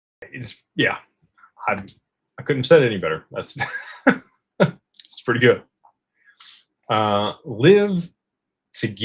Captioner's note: laughter